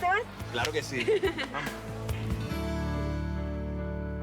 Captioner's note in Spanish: Ríe